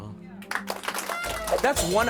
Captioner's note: applause